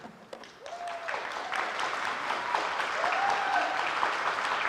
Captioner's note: audience applaud